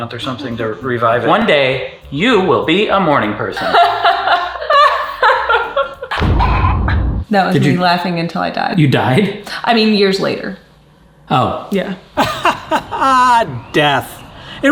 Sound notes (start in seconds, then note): 3.6 laughs; 12.2 laughs